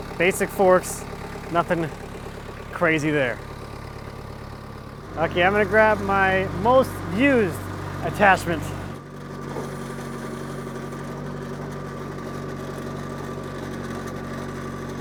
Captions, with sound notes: Basic forks, nothing crazy there. Okay, I'm gonna grab my most used attachments. (skid steer engine roaring)